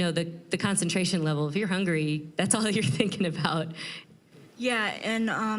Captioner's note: chuckling